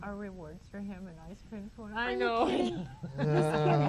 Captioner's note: laughs